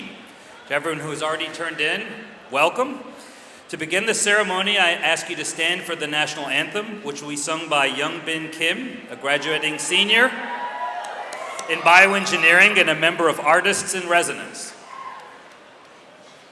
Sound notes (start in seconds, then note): 9.4 audience cheers; 11.0 claps